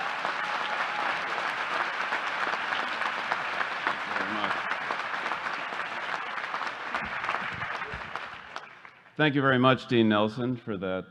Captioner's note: applause